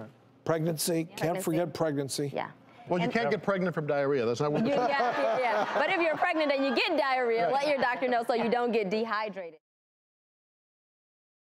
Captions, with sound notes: Pregnancy, can't forget pregnancy. Well, you can't get pregnant from diarrhea. (all laugh) Yeah, but if you're pregnant and you get diarrhea, let your doctor know so you don't get dehydrated.